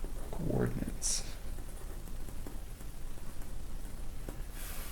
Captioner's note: writing Sounds